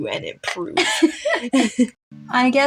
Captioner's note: both Chuckle